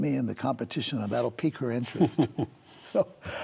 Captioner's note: chuckles